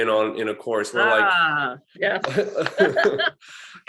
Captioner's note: laughter